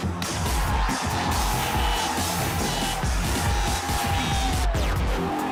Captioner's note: crowd cheers